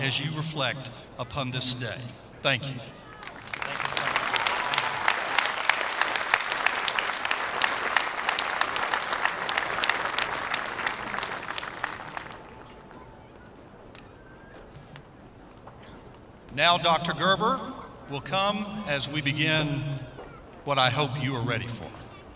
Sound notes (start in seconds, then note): 5.3 applause